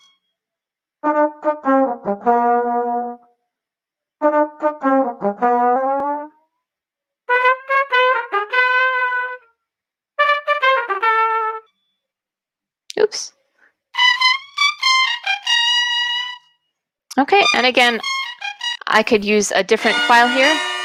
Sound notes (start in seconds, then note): 14.1 electronic sound effect